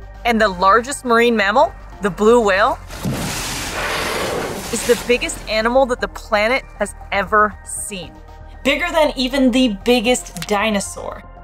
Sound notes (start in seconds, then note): 2.8 noise of whale spouting water